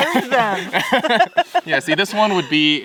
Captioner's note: all laughing